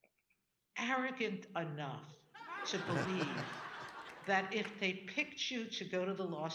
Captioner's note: audience laughing